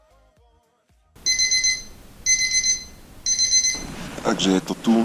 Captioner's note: alarm sound